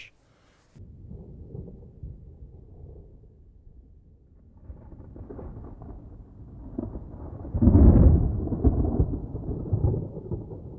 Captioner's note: sounds of a thunderstorm can be heard